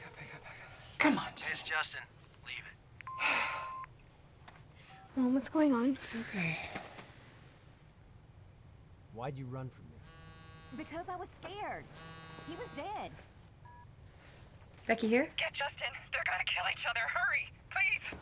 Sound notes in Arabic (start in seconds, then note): 3.0 صوت البريد الصوتي، إيلي تتنهد; 11.5 يهتز الهاتف الخلوي; 11.8 يصدر الهاتف الخلوي صوتًا